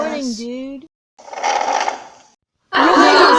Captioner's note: chair scooch